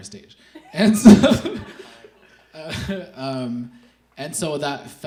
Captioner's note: laughs